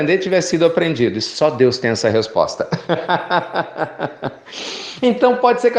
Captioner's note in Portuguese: Risos